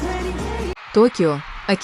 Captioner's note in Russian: крик